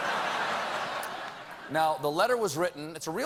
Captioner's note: laughter